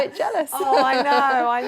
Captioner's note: laughter